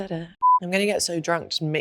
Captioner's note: beeps